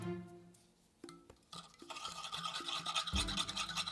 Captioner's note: whisking